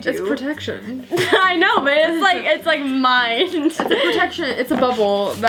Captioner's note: laughing